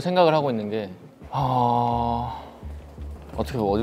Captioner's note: sighing deeply